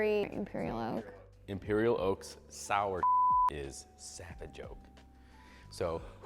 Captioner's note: beep